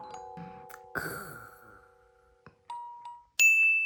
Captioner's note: finally falling asleep